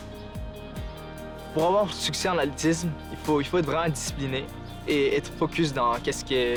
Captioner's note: speaking in foreign language